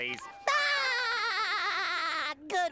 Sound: giggling

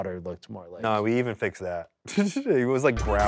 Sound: laughs

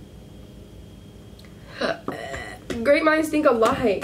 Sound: burps

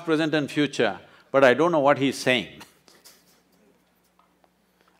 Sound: laughs

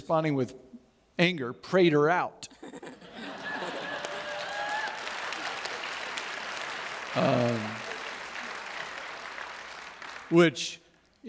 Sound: audience Cheers

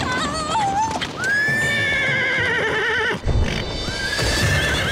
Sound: whinnying

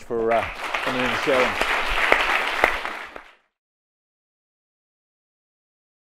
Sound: applause

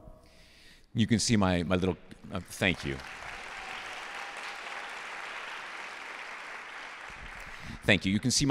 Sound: applause

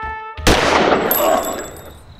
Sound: gunshot

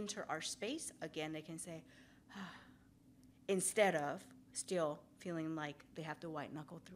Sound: sighs

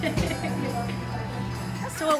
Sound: laughing

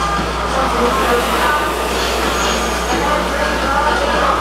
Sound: rower roars lightly

